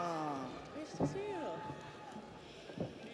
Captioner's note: audience applauds; audience cheers